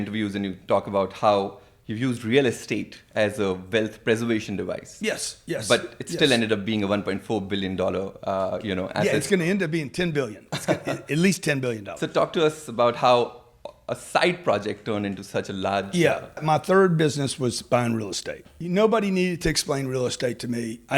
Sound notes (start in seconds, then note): 10.4 laughing